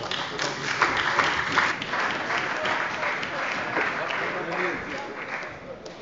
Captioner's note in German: Beifall bei der CDU und dem BÜNDNIS 90/DIE GRÜNEN